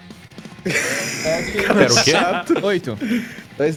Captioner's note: laughter